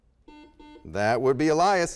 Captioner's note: beeping